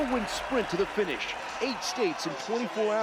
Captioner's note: upbeat music; crowd cheering